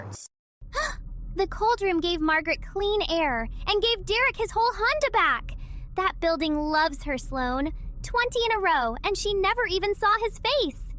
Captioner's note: gasp